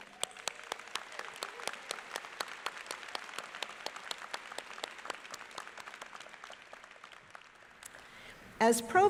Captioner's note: applause